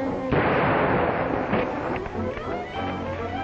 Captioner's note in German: Waffen schießen